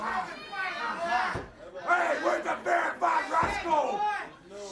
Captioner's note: crowd chatter